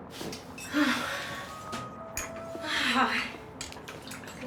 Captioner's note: sighs